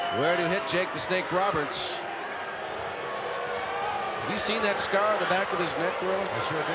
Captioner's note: applause